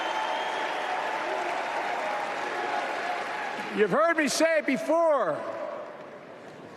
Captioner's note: applause